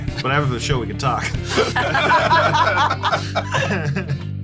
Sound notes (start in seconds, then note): 1.4 chuckles; 1.4 laughter